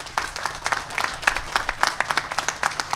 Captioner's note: applause